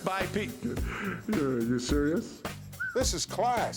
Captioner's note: laugh